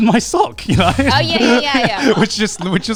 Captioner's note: laughs